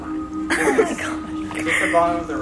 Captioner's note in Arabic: ضحك